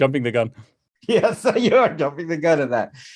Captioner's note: laughs